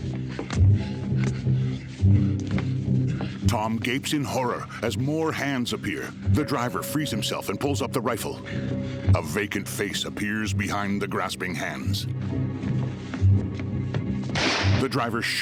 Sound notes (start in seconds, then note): 2.8 panting; 14.3 gunshot